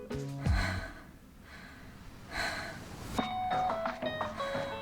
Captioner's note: strained breathing